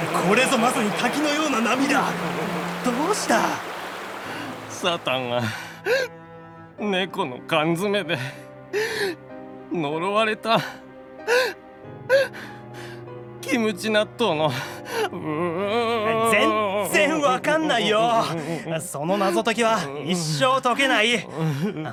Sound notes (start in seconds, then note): 7.3 sob